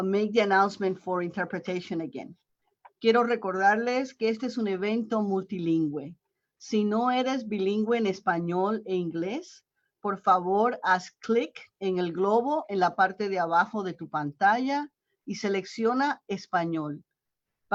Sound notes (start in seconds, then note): 6.2 Spanish